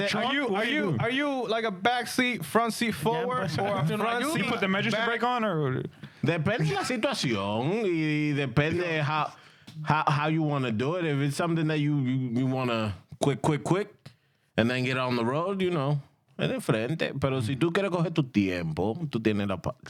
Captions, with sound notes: Are you like a back seat, front seat forward or you put the magic to break on or? (Speaking In Spanish) How you want to do it. If it's something that you want to quick, quick, quick and then get on the road, you know. (Speaking In Spanish)